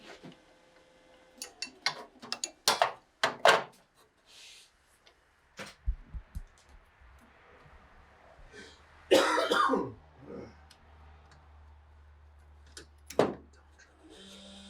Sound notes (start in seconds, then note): 1.4 tools clank; 9.1 man coughs